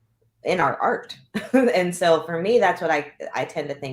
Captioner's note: laughter